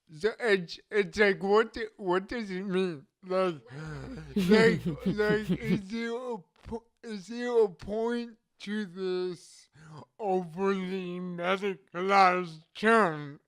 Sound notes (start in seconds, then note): 3.9 chuckles